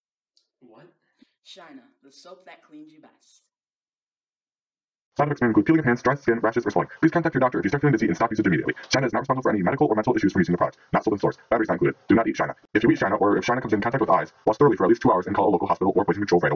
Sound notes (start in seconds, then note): 5.1 fast talking